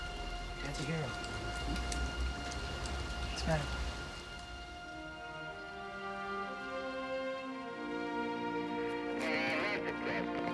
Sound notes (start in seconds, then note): none